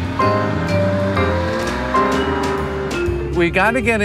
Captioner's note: car engine humming